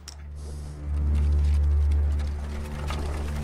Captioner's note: wagon approaching